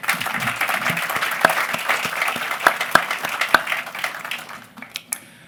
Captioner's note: applause